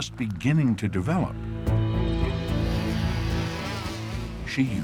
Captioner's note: drone whirring